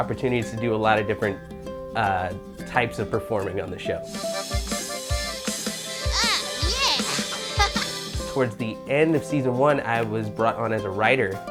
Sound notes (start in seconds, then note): 3.7 happy music; 5.8 laughing